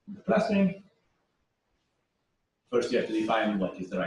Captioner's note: pause